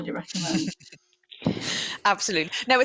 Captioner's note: laughter